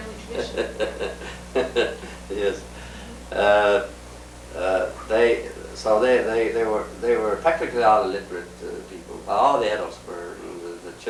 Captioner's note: laughs